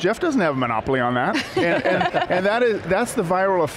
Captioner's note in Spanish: risas